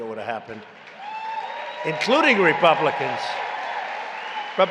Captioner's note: applause